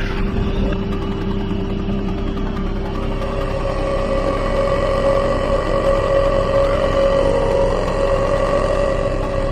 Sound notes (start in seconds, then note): 0.1 eerie rock music; 3.3 creature groans